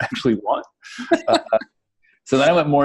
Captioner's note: laughing